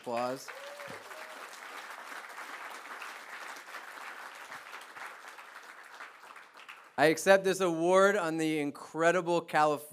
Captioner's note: applause